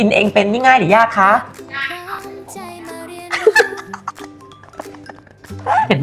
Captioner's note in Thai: เสียงหัวเราะ